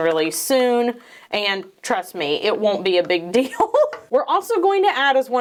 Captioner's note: laughs